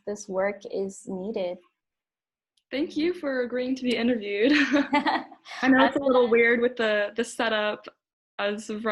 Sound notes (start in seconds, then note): 4.5 both laugh